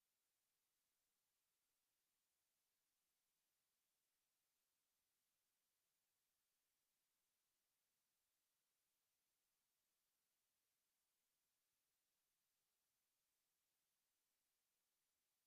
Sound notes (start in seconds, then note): none